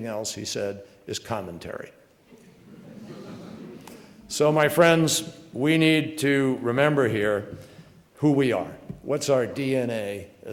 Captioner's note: laughter